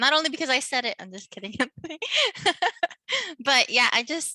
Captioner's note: laughing